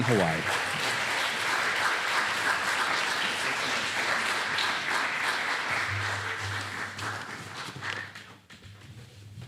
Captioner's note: applause